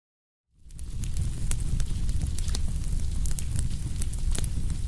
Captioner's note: flames crackling